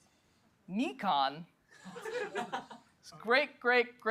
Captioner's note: laughter